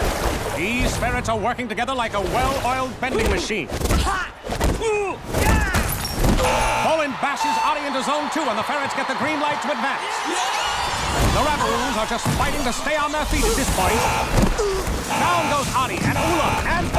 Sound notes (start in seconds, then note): 6.3 buzzer sounding; 10.0 cheering